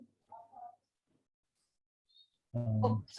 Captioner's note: team member mumbles